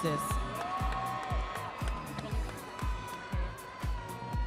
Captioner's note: crowd cheers